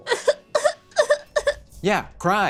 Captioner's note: sobs